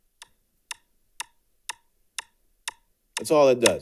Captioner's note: metronome clicks